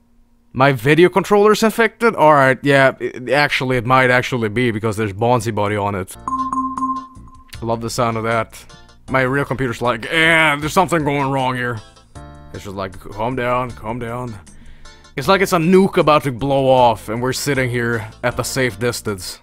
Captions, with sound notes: My video controller's infected? Alright, yeah, actually it might actually be because there's Bonzi Buddy on it. [Avast dinging noises] Love the sound of that! My real computer's like, "Ehhhh, there's something going wrong here," and I'm just like, "Calm down, calm down." It's like it's a nuke about to blow off and we're sitting here at a safe distance.